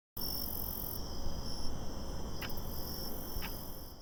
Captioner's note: crickets chirping